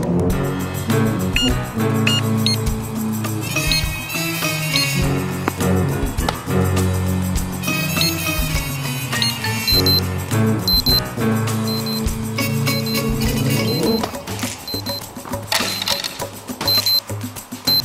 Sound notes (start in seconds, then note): 0.2 dramatic music; 3.5 timer ticking; 9.1 phone beeping